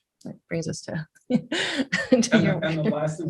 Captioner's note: laughs